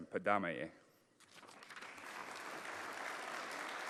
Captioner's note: applause